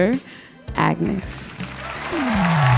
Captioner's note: audience applauding; audience cheering